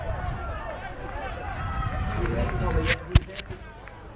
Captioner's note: crowd cheers